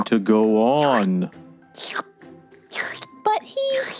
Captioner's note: slurping